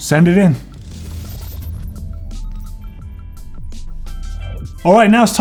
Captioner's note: whirring and beeping